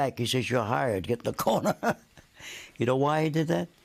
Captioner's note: laughing